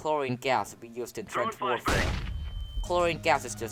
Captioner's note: flashbang